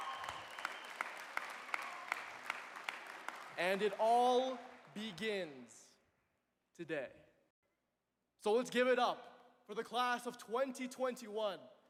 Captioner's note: applause